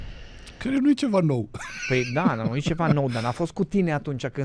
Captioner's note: laughter